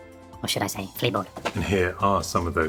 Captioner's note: sped Up Speech